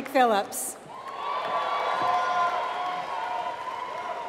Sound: applause

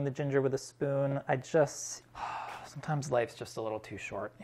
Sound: sighs

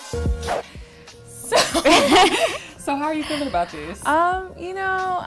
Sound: laughing

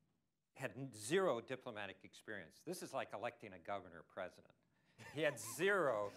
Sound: laughter

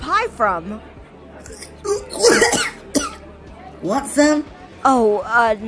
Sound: coughs up a pie

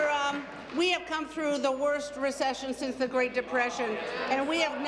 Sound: applause

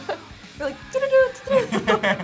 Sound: laughs

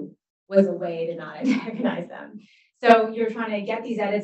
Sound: chuckles

